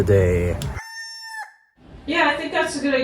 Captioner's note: rooster crowing